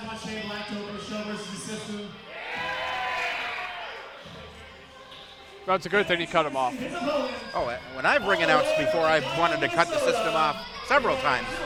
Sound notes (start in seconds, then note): 2.1 crowd cheering